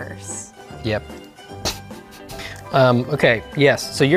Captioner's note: sniggers